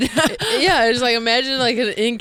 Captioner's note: laughing